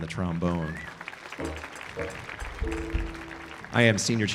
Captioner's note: audience applauding